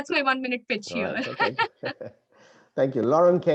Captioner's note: both laugh